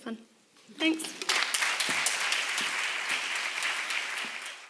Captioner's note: applause